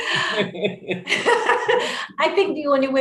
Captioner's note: laughs